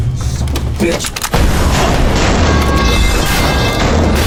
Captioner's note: gun firing